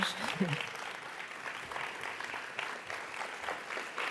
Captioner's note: audience applauds